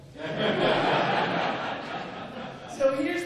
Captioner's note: laughter